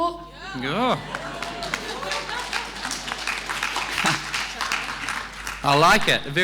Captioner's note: applause